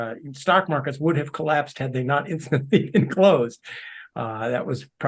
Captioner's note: laugh